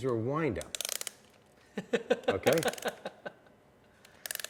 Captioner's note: clicking